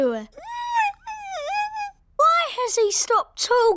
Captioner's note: squeaks